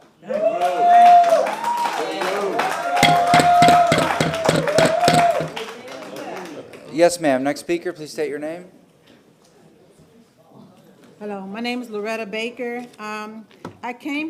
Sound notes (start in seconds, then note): 5.4 applause; 6.1 sounding gavel